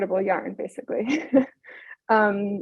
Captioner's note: chuckles